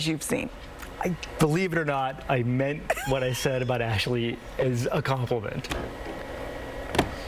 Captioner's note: laughter